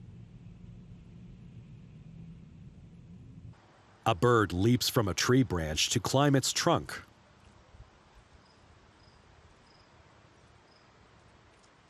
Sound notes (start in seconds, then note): 6.6 birds chirping